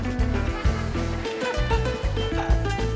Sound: laughing

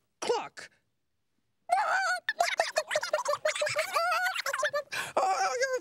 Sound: laughing and clucking

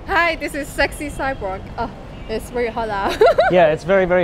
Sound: laughs

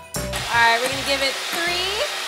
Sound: mixer whirring

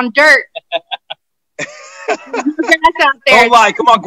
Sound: laughter

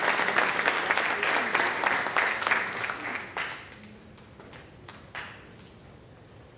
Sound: applause

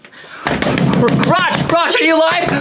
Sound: palm thuds

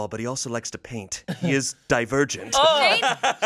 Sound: laughs

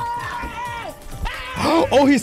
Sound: ahh!

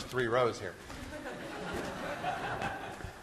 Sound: class laughing

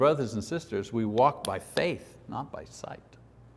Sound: none

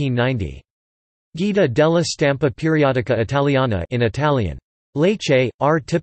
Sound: in Italian

